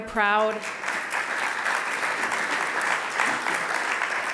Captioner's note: applause